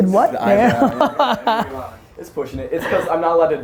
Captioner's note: laughs